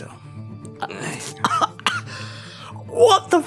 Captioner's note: coughing